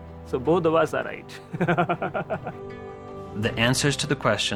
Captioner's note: chuckles